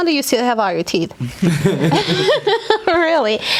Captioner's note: laughing